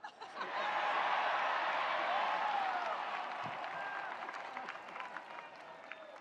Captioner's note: attendees cheering; attendees applauding